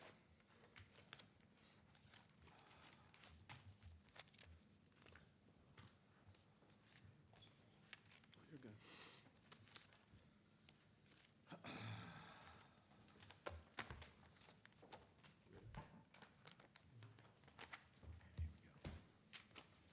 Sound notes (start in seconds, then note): 2.3 speaking away from the mic